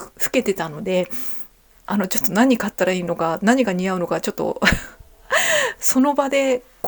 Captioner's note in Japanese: 笑い